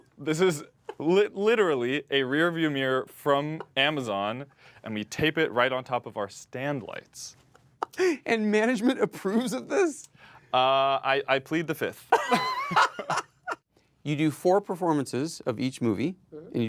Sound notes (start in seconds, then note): 12.1 both laughing